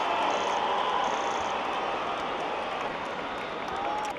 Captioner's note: crowd cheering